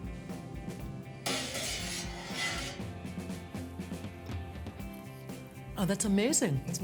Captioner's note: scraping tin